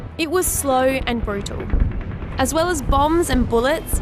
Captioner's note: rumbling, gunfire